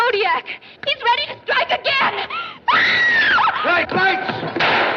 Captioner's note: screams